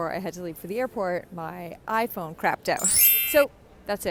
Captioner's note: chiming